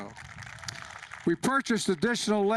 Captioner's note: applause